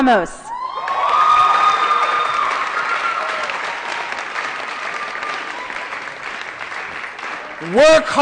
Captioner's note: applause & Cheering